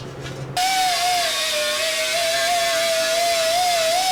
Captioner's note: grinding noisily